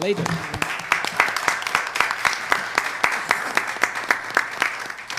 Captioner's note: audience applauding